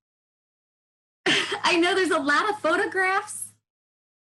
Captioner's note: chuckles